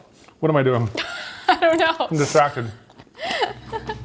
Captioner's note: laughing